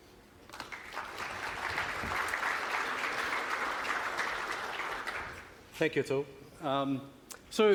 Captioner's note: applause